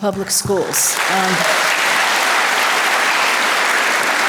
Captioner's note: audience applause